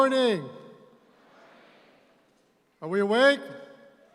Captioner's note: audience responds